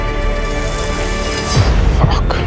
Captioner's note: blade scraping